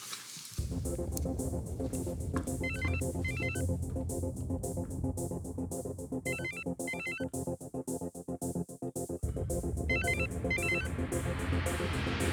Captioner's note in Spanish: Sigue sonando el celular